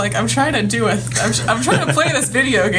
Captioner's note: laughs